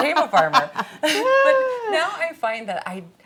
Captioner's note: laughing